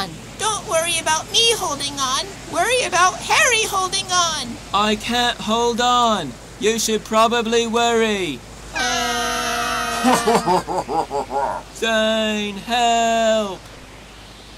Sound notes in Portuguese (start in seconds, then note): 8.6 Gritando